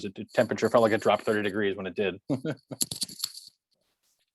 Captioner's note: chuckles